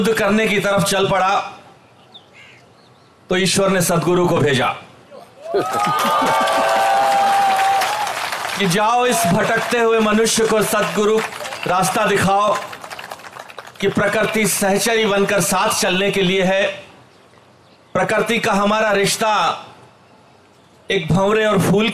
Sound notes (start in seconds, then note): 5.4 Sadhguru Laughs; 6.7 applause